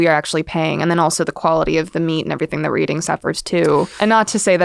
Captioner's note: talks quickly